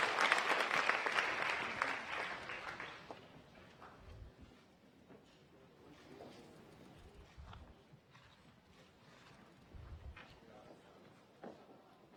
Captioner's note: applause